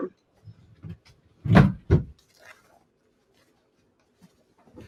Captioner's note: thud sound